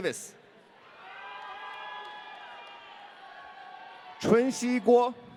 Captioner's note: audience cheering